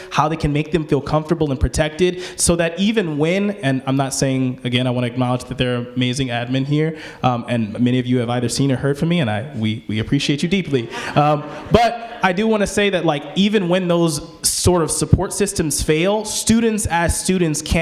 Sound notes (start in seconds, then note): 10.6 people laughing